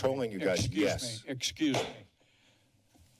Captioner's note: bangs gavel